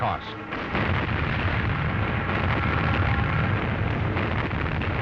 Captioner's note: explosions